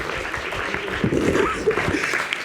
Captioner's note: microphone rumbles